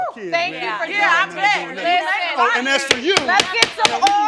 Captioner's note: all yelling